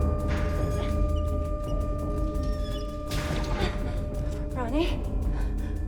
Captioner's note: escape hatch squeaking